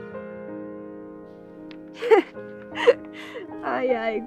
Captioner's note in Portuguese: risos